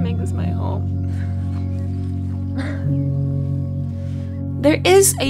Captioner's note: birds chirping; chuckles